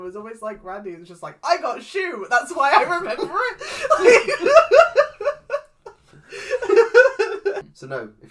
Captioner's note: laughs